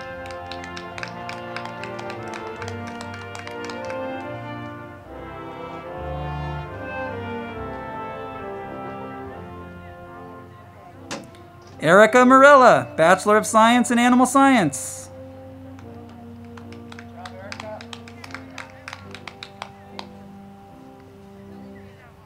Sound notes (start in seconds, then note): 0.0 crowd clapping; 0.1 band music; 15.6 crowd clapping; 15.8 band music